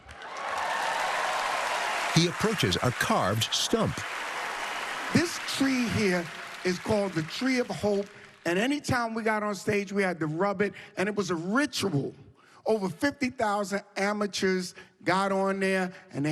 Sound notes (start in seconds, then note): 0.5 cheering and applause